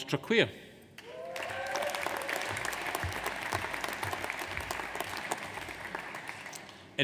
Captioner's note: audience applauds; audience cheers